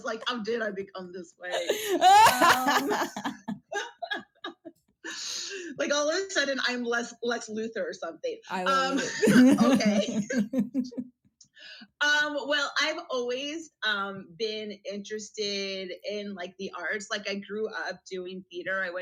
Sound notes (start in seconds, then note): 1.4 laughs; 8.6 laughs